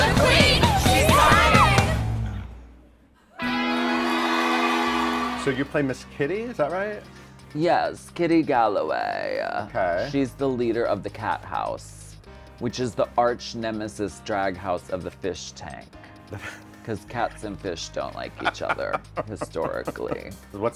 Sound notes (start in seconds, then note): 3.4 audience cheers; 3.5 dramatic music